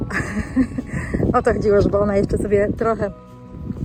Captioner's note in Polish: śmiech